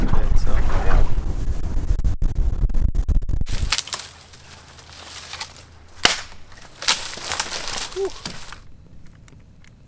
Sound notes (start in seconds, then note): 3.4 branches cracking